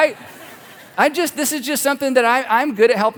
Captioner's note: laugh